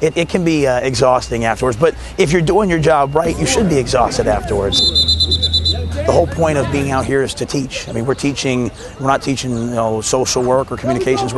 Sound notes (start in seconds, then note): 4.6 whistle blows